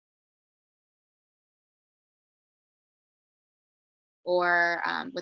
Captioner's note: missing audio